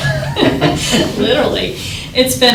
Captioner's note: laughs